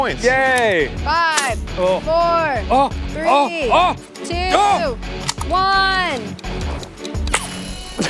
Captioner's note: increasingly urgent noises; laughs; timer rings